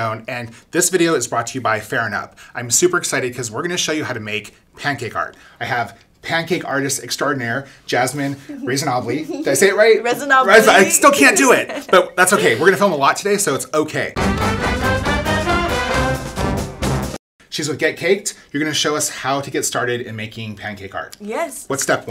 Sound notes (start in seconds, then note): 10.7 laughing; 14.1 bouncy music